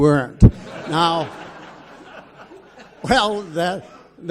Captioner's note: audience laughs